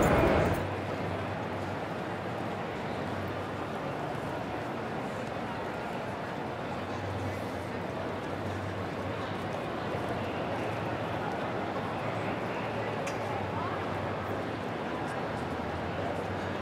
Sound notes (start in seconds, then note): 1.2 soft and constants chatters